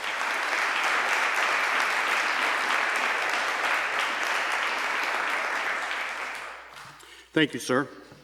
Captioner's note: applause